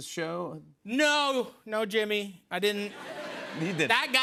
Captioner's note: laughter